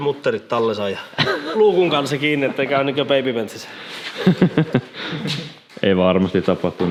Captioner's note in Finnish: naurahtaa